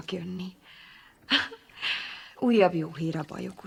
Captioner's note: chuckles